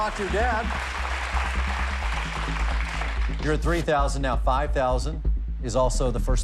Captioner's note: applause